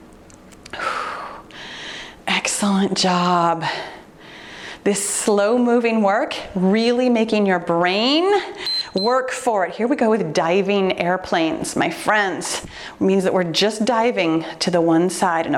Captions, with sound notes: (exhales deeply) Excellent job. This slow moving work, really making your brain-- (timer beeps) work for it. Here we go with diving airplanes, my friends. It means that we're just diving to the one side.